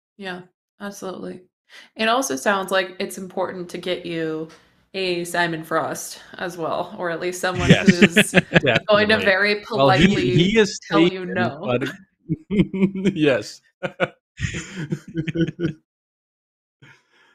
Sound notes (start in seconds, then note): 12.9 laughs; 14.4 laughter